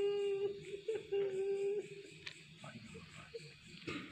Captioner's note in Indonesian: menangis